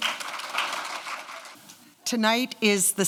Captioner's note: applause